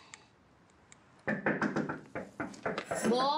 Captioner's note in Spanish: toques en la puerta